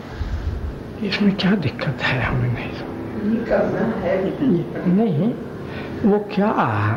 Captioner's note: discussion in Hindi